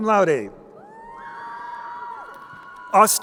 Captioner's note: crowd cheering